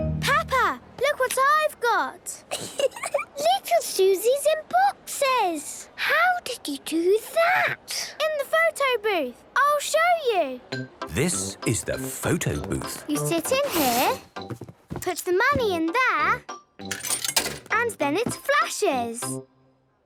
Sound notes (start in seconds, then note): 16.9 coin tumbling